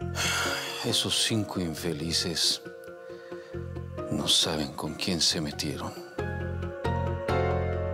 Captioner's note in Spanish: Suspiros